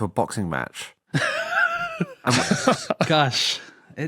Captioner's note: wheeze